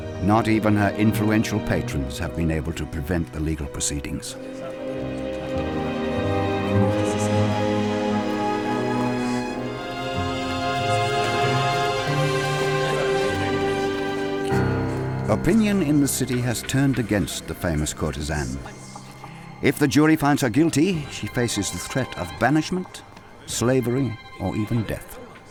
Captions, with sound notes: Not even her influential patrons have been able to prevent the legal proceedings. (people chattering) (suspenseful music) Opinion in the city has turned against the famous courtesan. If the jury finds her guilty, she faces the threat of banishment, slavery, or even death.